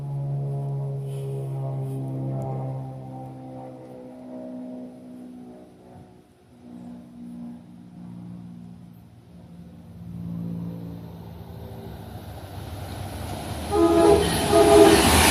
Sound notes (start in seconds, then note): 13.6 horn Horn; 13.7 horn